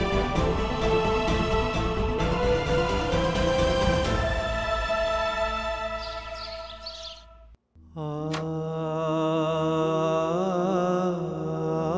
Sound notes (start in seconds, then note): 0.0 sombre music; 5.6 birds chirping; 7.7 melancholic music